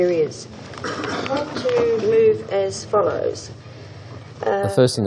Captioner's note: coughs